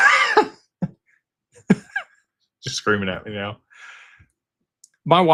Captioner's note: laughter